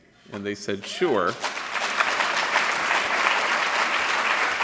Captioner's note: applause